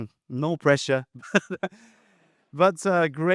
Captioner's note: chuckles